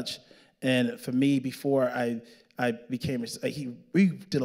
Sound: stammering

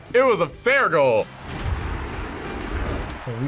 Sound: spectators cheering

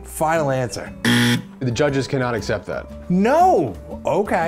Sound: buzzer

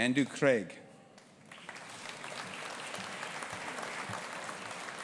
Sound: audience applauding

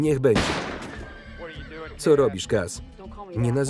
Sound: horse whinnies

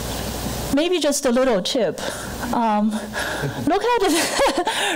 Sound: light laghter

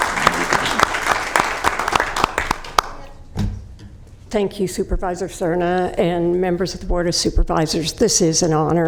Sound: applause

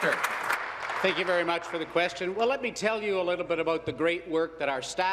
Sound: applause

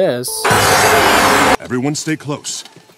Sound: Hei Bei screaming

